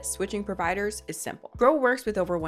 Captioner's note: none